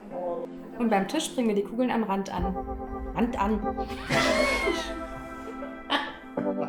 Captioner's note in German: lacht